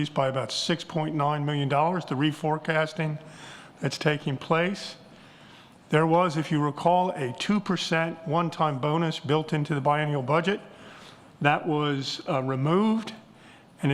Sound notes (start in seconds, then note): none